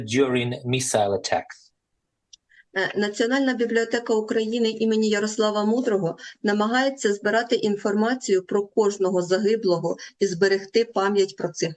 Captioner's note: foreign language